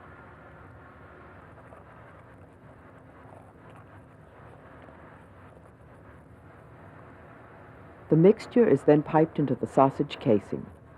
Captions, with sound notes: - [Voiceover] The mixture is then piped into the sausage casing.